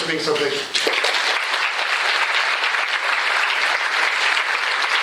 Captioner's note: applause